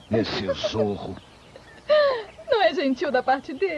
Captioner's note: giggling